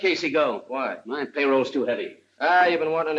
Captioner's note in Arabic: none